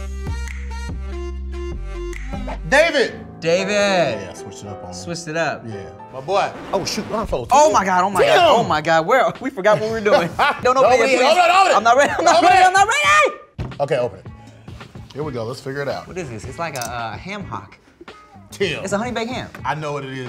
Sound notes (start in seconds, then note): 0.2 upbeat music; 9.8 laughs; 12.9 screams